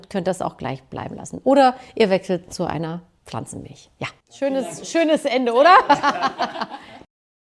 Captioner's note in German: gelächter